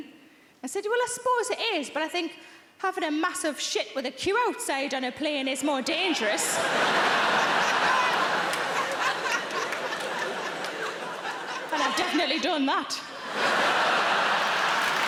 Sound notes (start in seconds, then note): 6.1 audience laughing; 14.8 audience laughing and clapping